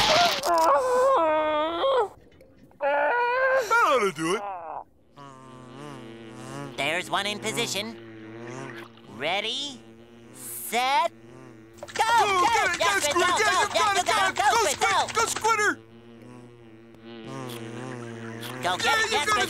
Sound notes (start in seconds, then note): 0.2 screaming; 4.9 buzzing